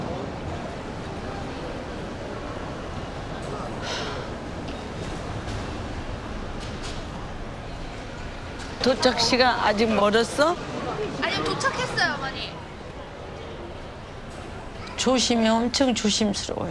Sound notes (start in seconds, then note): 0.3 people talking in background; 3.8 sighs; 8.6 speaking Korean